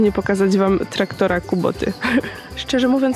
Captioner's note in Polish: śmiech